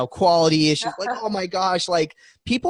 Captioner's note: laughing